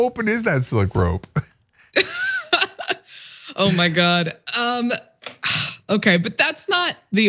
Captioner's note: laugh